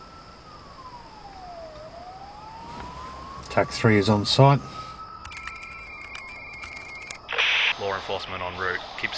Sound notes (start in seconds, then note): 5.1 electronic beeping